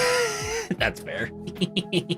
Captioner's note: laughs